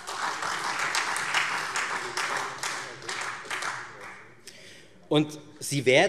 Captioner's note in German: Beifall Freie Demokraten und SPD - Zurufe